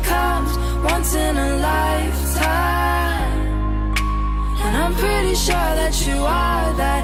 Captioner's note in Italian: Applauso